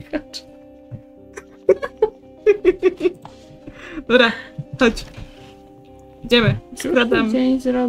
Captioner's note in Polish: śmiech